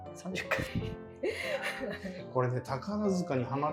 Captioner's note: laughing